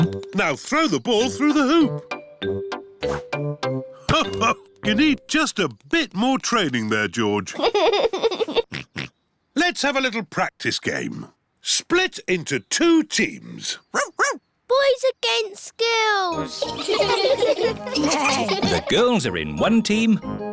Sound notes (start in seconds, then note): 7.5 giggles and oinks; 13.9 barks; 16.4 all giggling